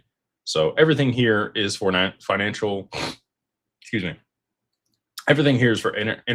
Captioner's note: snorts